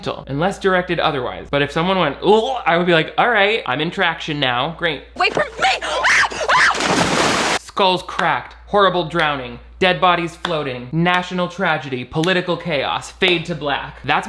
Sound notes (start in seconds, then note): 5.2 Mia screams; 5.2 water splashes